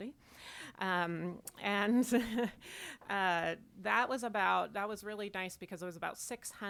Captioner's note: chuckles